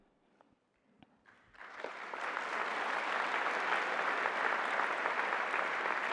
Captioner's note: applause